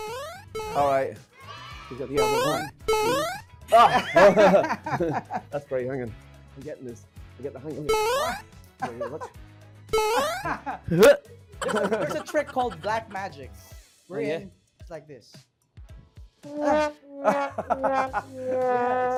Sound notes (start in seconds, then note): 3.7 laughter; 8.8 laughter; 17.3 laughs